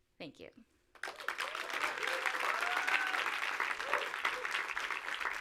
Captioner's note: audience applauds